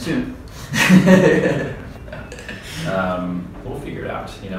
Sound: laughing

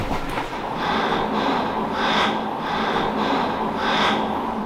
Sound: heavy breathing

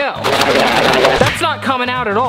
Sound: comedic sound plays

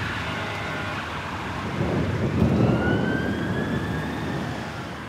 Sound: siren

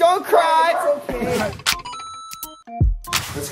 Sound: beep

